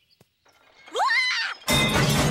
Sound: screaming

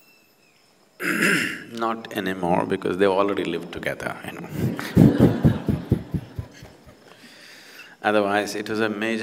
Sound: laugh

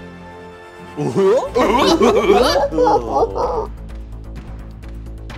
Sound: all imitating Goofy laughing; tense music

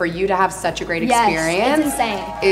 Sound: audience cheers

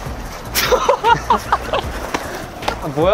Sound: cracking up; laughing

